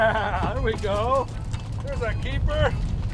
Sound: laughs

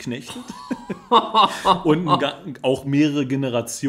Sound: laughs

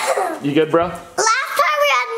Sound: coughs

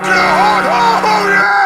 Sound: horn honks

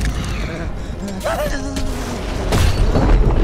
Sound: buzzing

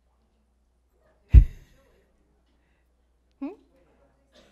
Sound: laughs

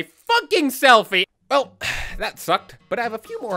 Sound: sigh

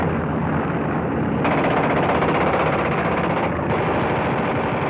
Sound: shooting sounds

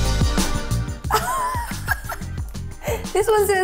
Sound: fun rhythmic music; laughs

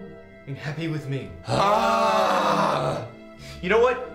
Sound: hands sigh

